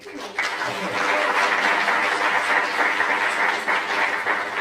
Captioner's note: applause